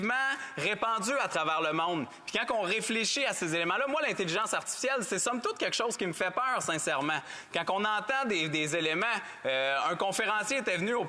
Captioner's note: speaking French